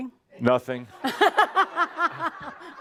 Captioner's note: laughter